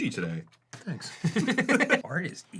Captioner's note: both laughing